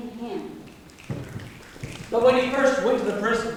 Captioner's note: snapping